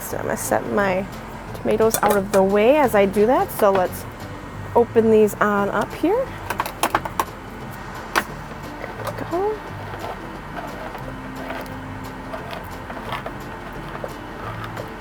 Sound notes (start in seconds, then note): 10.0 air conditioner whirring; 10.0 soft music; 11.7 can opener grinding